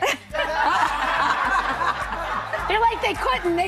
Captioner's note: audience laughing